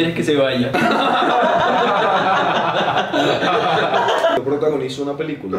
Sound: laughs

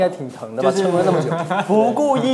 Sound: laughing

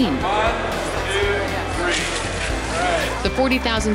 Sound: cheers

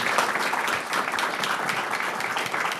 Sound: applause

